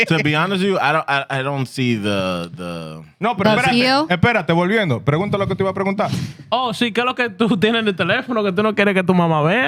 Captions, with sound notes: To be honest with you, I don't see the. No, but. (Speaking In Foreign Language)